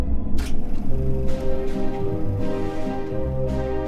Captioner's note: film camera rolling